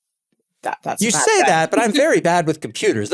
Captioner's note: laugh